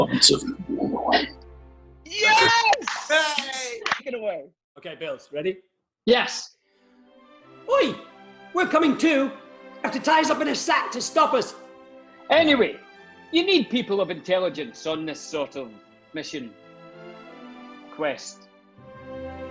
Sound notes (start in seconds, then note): 2.1 group claps and cheers